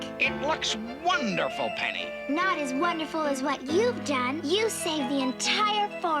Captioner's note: none